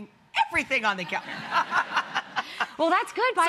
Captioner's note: audience laughing